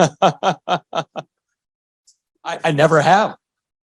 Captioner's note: laughter